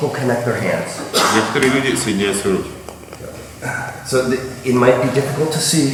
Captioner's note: speaking in a foreign language